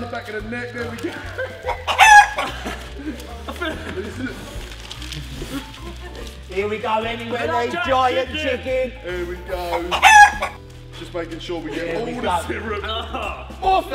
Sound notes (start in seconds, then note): 1.6 chicken clucking; 1.6 laughing